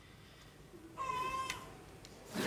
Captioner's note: baby cry